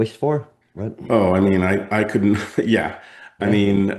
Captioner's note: laughs